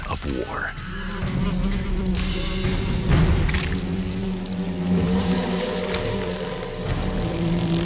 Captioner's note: dramatic music; hornets buzzing